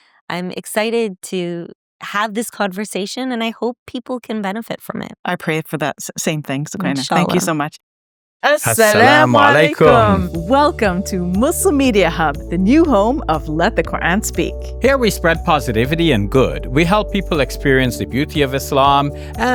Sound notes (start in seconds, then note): 8.5 both speaking Arabic